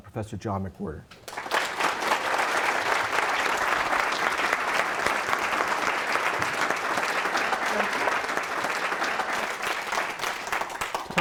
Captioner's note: applause